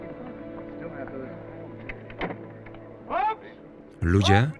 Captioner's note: crowd chattering